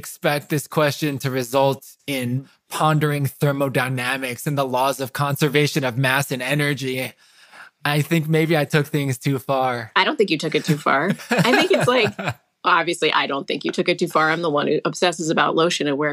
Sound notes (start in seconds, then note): 10.5 laughs